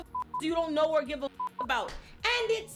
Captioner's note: beep